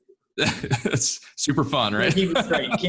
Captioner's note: laughs